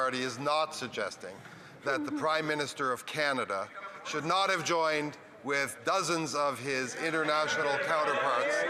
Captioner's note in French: voix de l'interprète